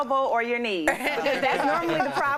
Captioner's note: laughter